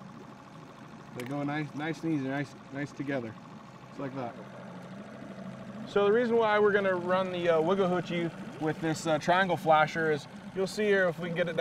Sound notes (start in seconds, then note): 5.4 boat engine running